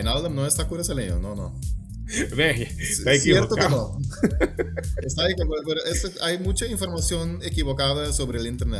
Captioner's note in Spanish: risas